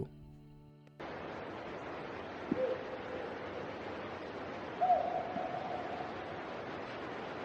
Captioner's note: white noise crackling; voices whooping